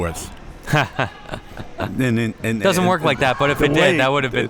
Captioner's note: laughing